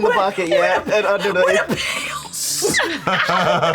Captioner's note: wheezes; laughter